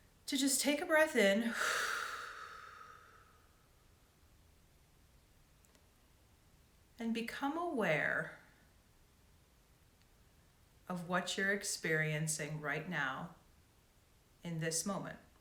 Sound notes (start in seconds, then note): 1.4 mouth exhaling